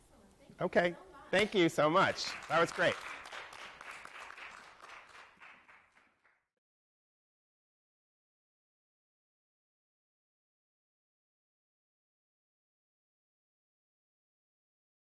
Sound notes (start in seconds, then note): 1.7 applause